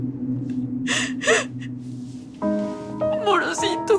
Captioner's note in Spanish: Sollozos